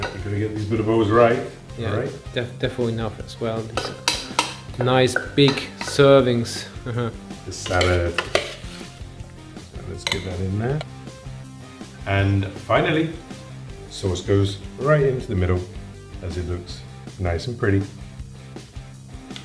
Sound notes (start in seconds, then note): 7.6 spoon scrapes bowl